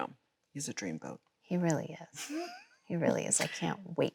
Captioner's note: Chloe laughs